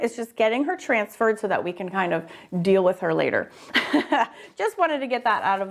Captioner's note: laughs